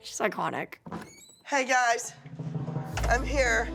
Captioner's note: door opens